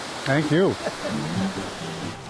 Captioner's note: laughing